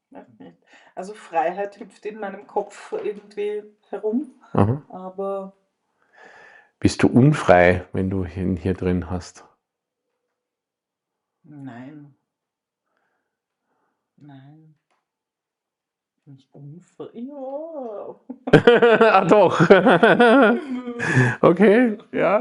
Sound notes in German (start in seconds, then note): 13.9 gelächter; 16.3 japst